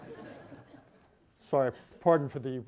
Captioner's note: laughter